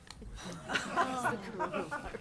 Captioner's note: audience laughs